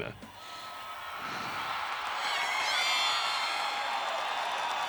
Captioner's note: crowd cheering